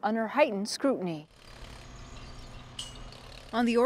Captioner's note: motor revving